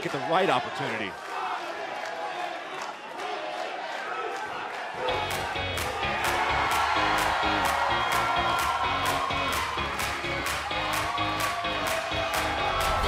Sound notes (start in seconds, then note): 3.7 fans chanting; 7.0 cheers & applause